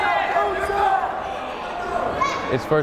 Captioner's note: yelling